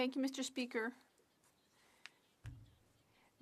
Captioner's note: speaking French